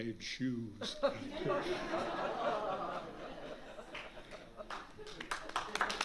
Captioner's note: laughter; applause